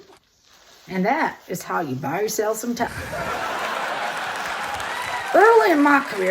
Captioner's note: audience laughter, applause, cheers